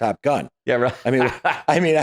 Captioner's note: laughing